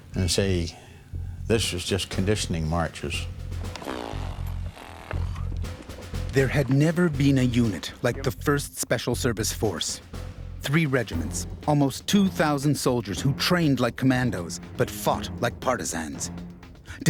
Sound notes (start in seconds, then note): 6.5 voiceover